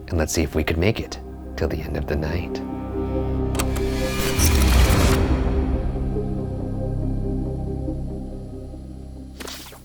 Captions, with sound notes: and let's see if we could make it till the end of the night. (tape player clicks) (tense music)